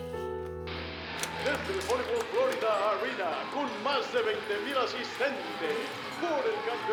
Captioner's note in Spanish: Voz en la TV